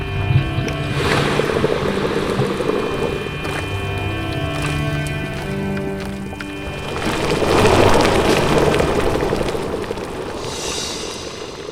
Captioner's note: hissing and bubbling